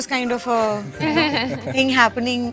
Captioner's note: giggles